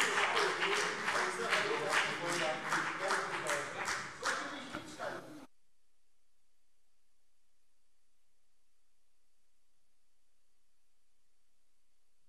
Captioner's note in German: Beifall CDU und BÜNDNIS 90/DIE GRÜNEN - Unruhe